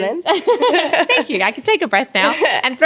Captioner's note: both laugh